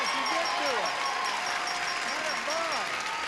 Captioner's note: cheers and applause